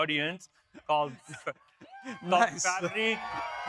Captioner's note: audience cheering